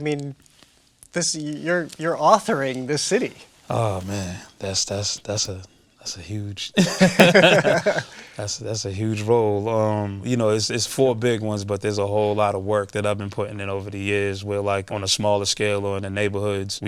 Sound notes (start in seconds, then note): 4.8 stammering; 6.8 both laughing